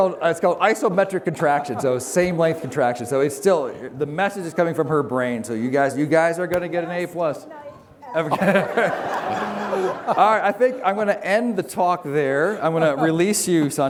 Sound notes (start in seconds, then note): 8.2 laughter